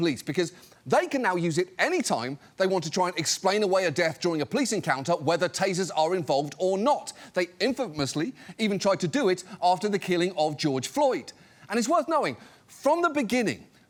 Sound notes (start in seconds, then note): none